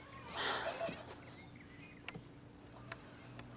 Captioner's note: sighs